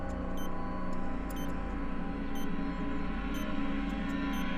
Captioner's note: tense music; machine beeping